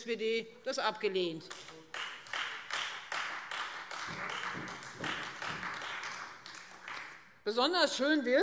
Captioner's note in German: Beifall Freie Demokraten und SPD